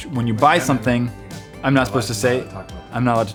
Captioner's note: none